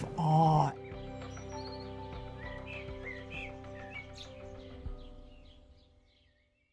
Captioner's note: birds chirping; gentle music